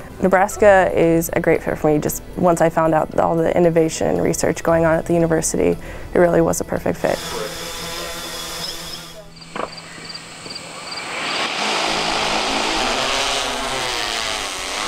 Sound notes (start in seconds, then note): 7.7 drone buzzing; 9.2 crickets chirping; 11.9 drone buzzing